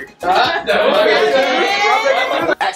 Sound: family cheering

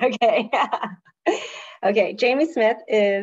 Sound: speaker laughing

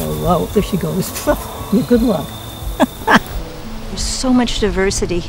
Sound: laughs

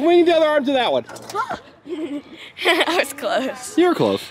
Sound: laughing

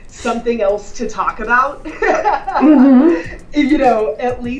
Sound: laughs

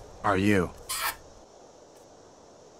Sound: smooch!

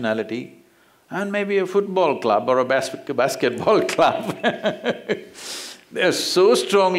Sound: laughs

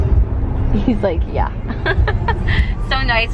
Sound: laughs

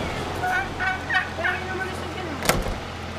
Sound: Primitivo cawing

